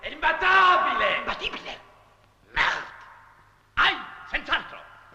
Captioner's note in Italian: sottovoce